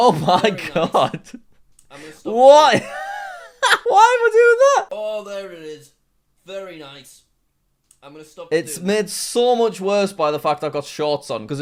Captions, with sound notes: Very nice. - Oh my God... I'm gonna stop- - Wha-!? (laughing hysterically) Why am I doing that? - Oh, there it is. Very nice. I'm gonna stop doing- - It's made so much worse by the fact I've got shorts on